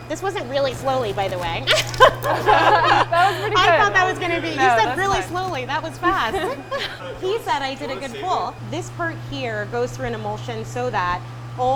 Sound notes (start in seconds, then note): 1.7 both laugh